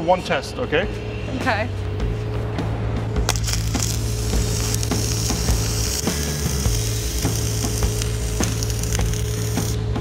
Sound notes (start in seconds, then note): 3.2 welding noise; 6.0 dramatic music